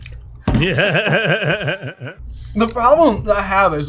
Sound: Seth Rogan laughing

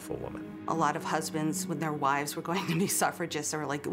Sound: chuckles

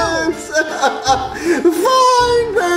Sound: cries

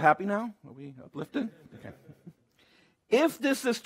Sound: laughter

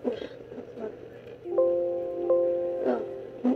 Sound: computer Error Noise

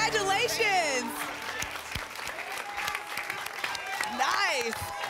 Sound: applause and cheering

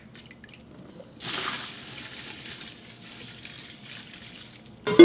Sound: pouring water

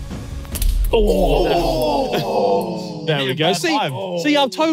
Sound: everyone groaning in pain

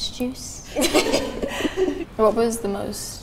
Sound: laughter

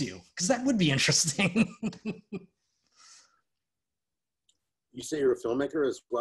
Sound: laughs

